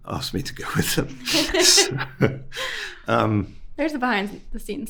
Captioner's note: both laughing